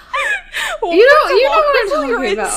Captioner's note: laughing